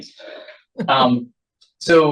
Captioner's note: laughs